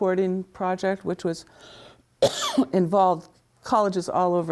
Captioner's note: coughs